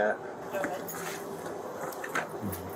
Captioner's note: radio chatter